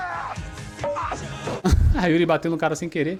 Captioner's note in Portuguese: grito